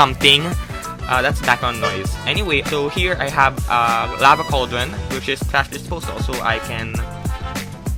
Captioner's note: loud horn